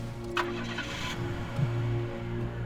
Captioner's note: car engine starts